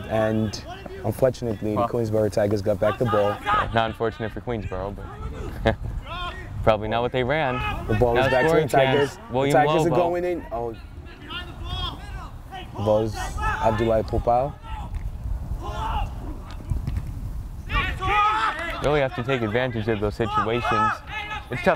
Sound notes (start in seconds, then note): 5.5 laughs; 15.4 players talking and yelling